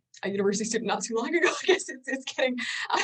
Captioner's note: laughs